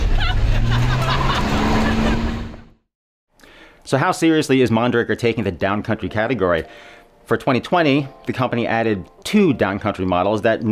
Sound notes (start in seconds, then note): 0.0 engine revving; 0.1 laughing